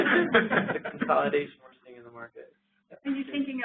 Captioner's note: laughter